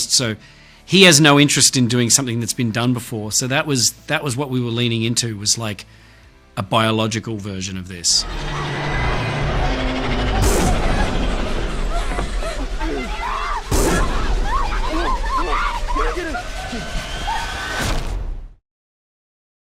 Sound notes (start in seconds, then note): 8.3 suspenseful music; 10.7 group panting and screaming